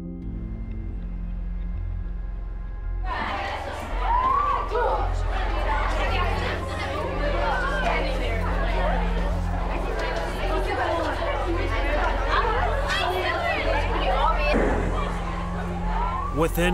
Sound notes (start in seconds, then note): 0.0 ethereal music; 2.7 crowd noise